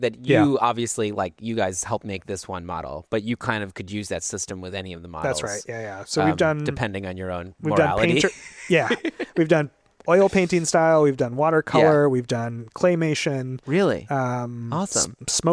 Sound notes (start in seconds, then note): 8.2 laughs